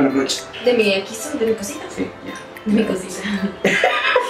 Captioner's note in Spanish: risas